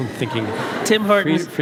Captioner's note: audience laughs